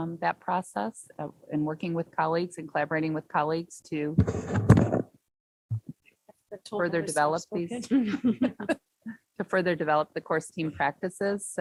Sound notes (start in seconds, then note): 7.7 chuckles